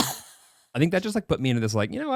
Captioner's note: laughing